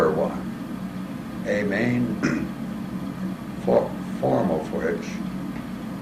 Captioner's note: cough